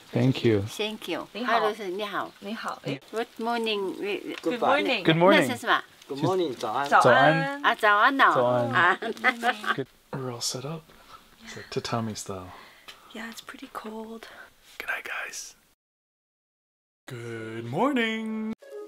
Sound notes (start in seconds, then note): 1.7 speaking in Mandarin; 6.0 speaking in Mandarin; 7.7 speaking in foreign language